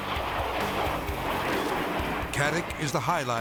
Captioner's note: jet whooshing